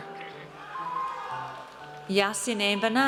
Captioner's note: audience cheers